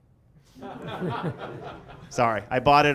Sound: laughter

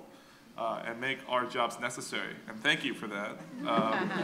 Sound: laughter

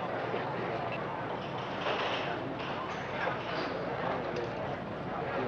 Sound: patients chattering

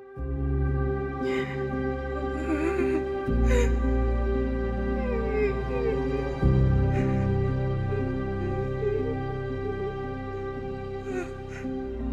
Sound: sad, anguish-filled crying and labored breathing till the end of the credits

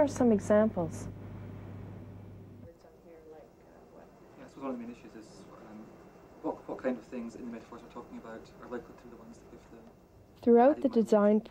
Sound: background conversations

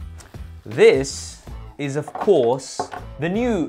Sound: objects clattering

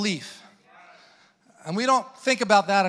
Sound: congregants affirming

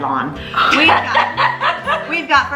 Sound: laughs

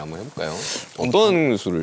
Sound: rummage

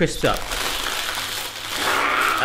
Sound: crisps crunching

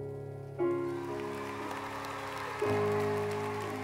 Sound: applause

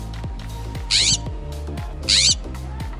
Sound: bird chirping

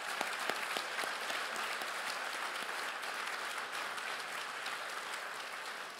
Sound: everyone applauds

